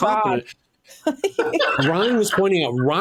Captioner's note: laughing